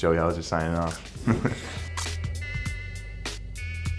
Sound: laughing

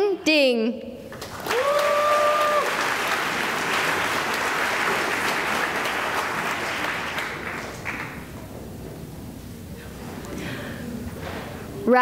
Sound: cheering and applause

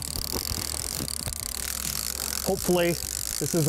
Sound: fishing rod clicking

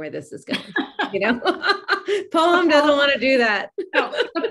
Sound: laughs; laughs

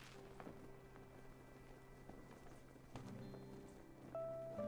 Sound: wind blowing; soft instrumental music

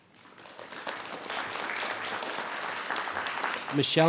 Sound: audience applauding

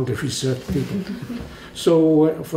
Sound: laugh

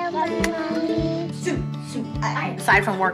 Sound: exhaling

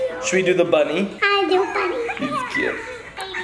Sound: baby sounds

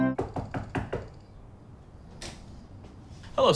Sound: knocking

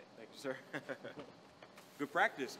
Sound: laughs

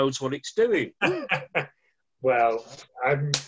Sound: laughing

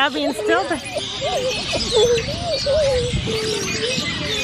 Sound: laughs

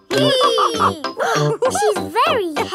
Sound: both straining; giggles; madam gazelle laughing

